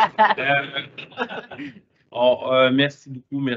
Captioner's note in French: rires